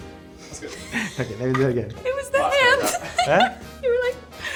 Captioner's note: both laughing